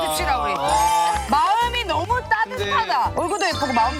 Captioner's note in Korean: 박수 짝짝